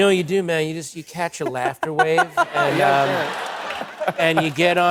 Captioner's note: laughter